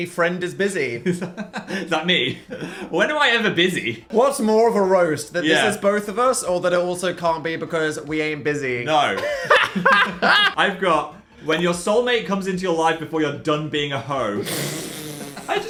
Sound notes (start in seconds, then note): 1.1 laughs; 9.1 both laughing; 14.4 laughing